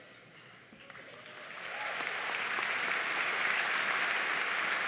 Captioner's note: audience applauding